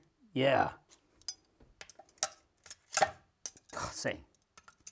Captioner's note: utensils clacking